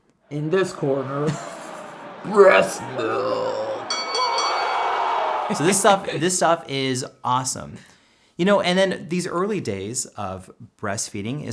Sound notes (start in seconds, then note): 0.5 laughs; 3.8 bell rings; 3.9 crowd cheers; 5.6 laughs